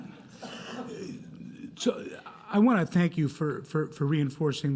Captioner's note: laughter